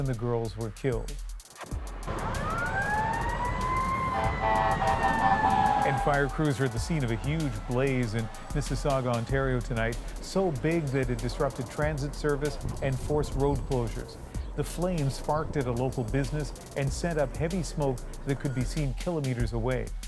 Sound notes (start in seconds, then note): 4.2 sirens